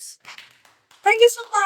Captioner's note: clapping